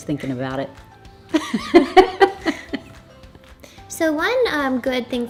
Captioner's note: laughs